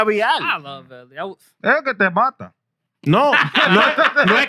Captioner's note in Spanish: Hablando en idioma extranjero; Riendo; Hablando en idioma extranjero